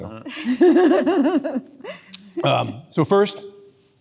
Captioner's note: audience members laughing